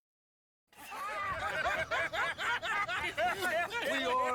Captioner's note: laughs